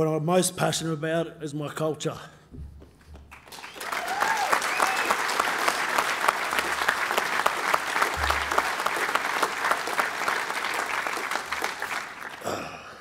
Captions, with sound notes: But what I'm most passionate about is my culture. (applause)